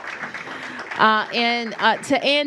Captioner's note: applause